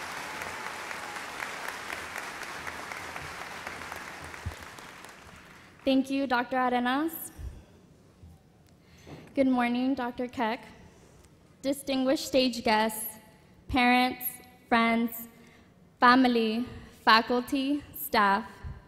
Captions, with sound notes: - [Voiceover] Thank you, Dr. Arenaz. Good morning, Dr. Keck, distinguished stage guests, parents, friends, family, faculty, staff,